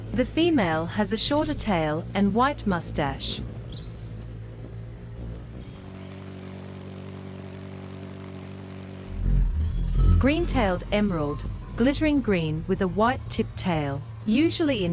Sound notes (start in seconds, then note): 4.5 bird's wing flapping; 5.5 bird chirping